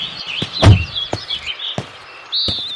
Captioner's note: car door opens; car door closes; footsteps